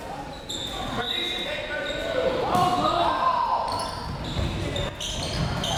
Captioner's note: crowd members shouting